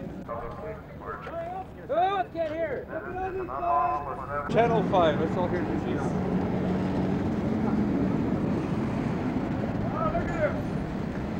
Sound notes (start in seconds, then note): 0.2 police Announcement over Bullhorn; 1.5 crowd and street noise; 3.2 Police, over bullhorn; 4.8 crowd and traffic noise